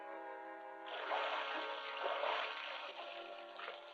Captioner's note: water splashing